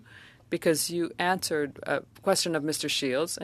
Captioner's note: speaking French